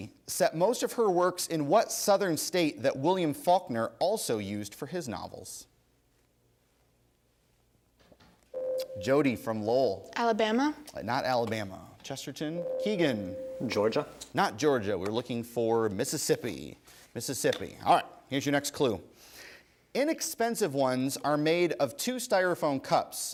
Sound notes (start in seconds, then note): 8.5 ding; 12.6 ding